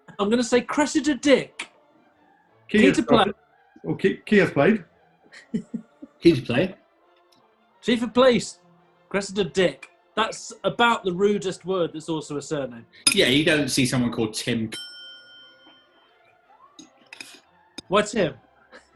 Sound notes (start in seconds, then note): 5.3 chuckling; 14.7 ding!; 18.6 chuckling